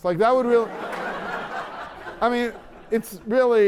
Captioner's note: laughter